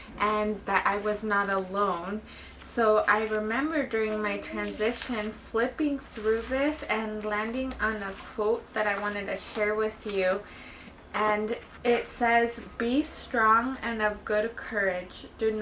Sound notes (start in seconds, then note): none